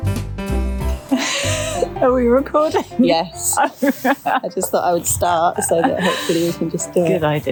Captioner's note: giggles